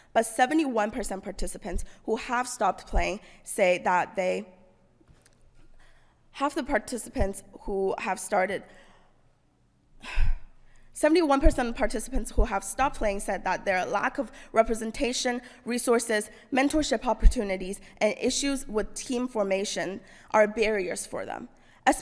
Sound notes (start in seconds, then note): 10.3 sighs